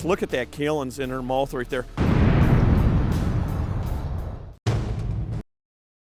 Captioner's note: explosion